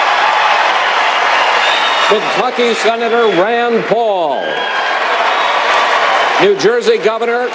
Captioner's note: applause